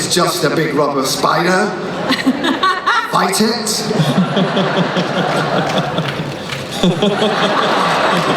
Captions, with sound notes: it's just a big rubber spider. (Jenna laughing) Fight it.